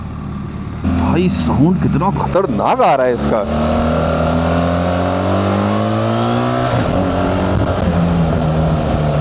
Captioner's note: engine roar